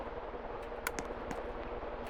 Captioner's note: other ceiling fan making noises; click